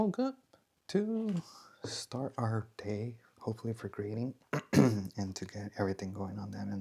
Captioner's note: clears throat